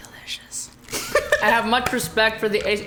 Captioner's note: whispers; laughs